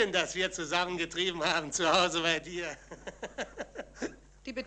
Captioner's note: chuckles